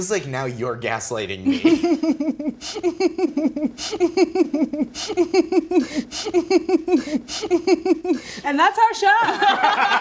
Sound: ziwe laughs maniacally

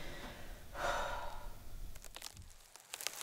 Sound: sigh

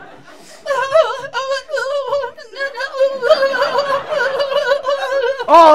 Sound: ummmm... moaning

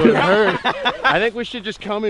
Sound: laughs

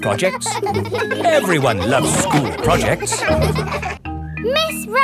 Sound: children laughing

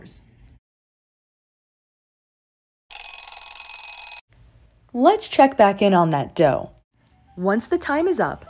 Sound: timer Rings

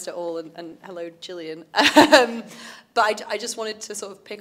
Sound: laughs

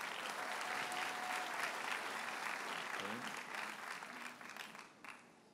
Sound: audience cheers and applauds

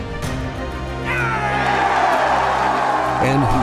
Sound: cheering

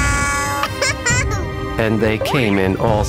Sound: giggles

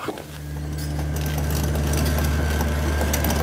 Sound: drumming, hammering

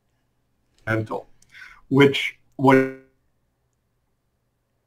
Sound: audio cuts out

